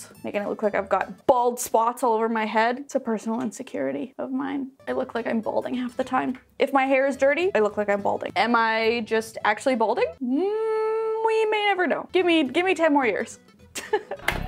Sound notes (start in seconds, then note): 10.3 hums; 13.8 laughs